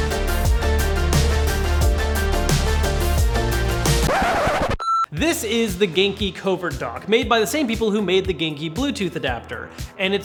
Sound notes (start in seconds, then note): 3.9 record scratching